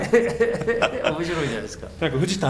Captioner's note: laughs